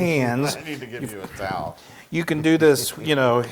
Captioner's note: laugh